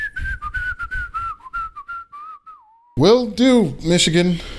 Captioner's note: whistles